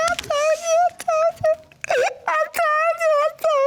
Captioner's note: cries